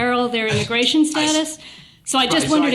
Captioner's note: chuckles